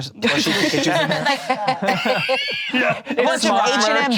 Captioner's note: all laughing